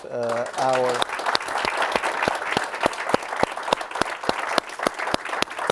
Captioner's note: applause